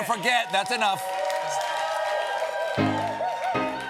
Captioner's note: cheering; piano riff